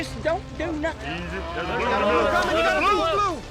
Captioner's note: mooing